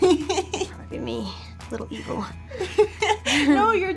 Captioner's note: Sofia laughs; laughs